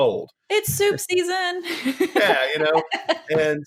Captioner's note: chuckling